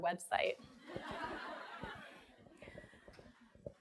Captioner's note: laughing